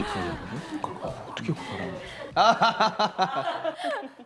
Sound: laughing

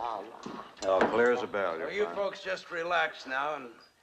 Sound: none

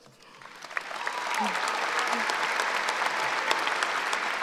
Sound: cheering and applauding

